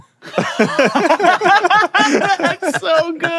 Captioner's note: all laughing